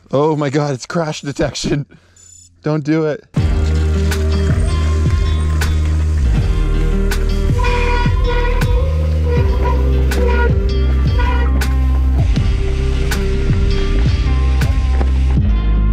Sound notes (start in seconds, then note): 3.5 mellow synth music; 7.4 horn honks loudly; 11.8 mellow synth music continues